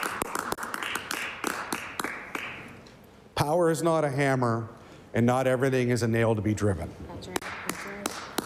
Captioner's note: applause